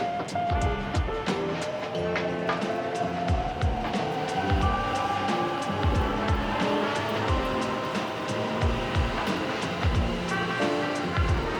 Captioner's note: train takes off, fades into distance